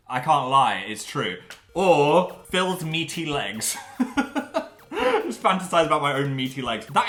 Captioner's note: laughs